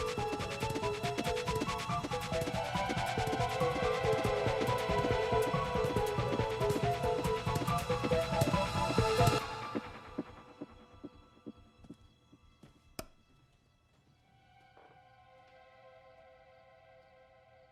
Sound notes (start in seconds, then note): 13.1 light switch flicks